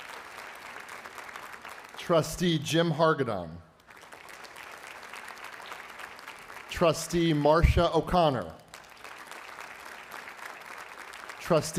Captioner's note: applause